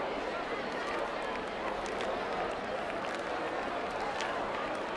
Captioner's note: crowd clapping and chattering indistinctly